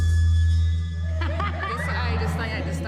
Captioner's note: laughs